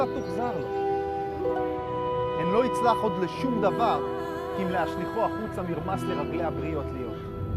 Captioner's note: speaking foreign language